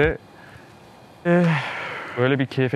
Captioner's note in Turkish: İç çekiş